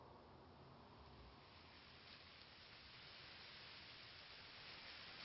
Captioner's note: leaves rustling